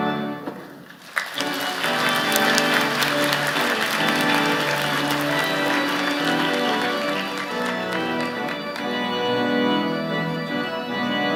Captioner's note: applause